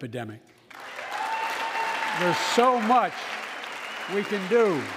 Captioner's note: applause